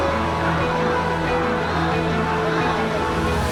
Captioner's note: cheering